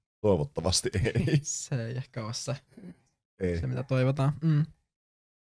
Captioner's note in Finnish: Nauraa